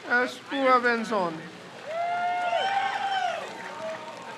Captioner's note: crowd cheers